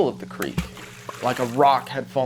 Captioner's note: water gurgles